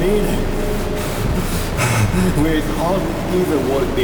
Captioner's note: heavy breathing